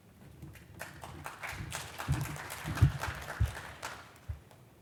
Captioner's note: applause